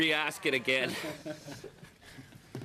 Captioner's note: laughter